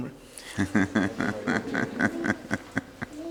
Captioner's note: laughter